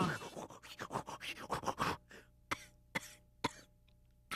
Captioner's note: making percussion noise; turns into coughing